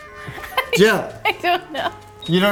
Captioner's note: laughs